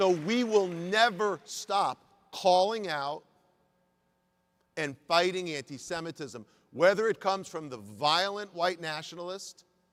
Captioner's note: applause